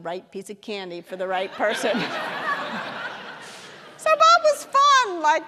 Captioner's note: audience laughing